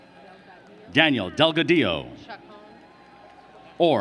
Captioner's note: applause